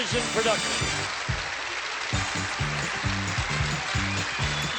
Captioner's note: applause, theme music